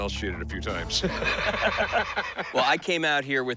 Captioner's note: laughter